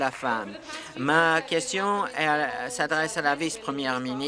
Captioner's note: applause